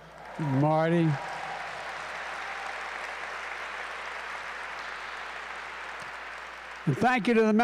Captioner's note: applause